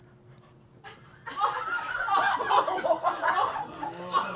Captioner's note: crew laughs